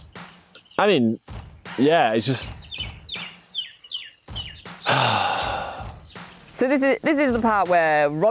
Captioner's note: heavy dramatic sigh